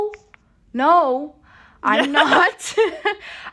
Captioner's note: laughter